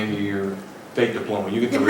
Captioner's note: laughter